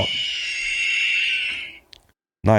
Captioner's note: high pitch squealing